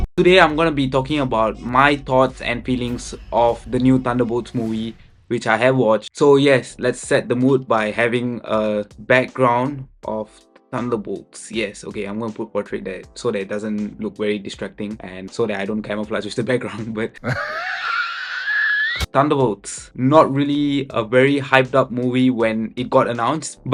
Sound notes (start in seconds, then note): 17.2 laughs